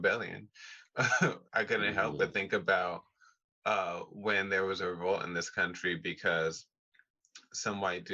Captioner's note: chuckle